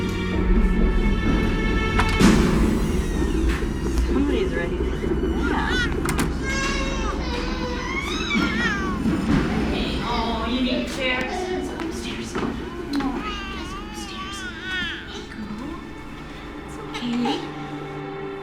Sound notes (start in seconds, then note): 5.2 Eva crying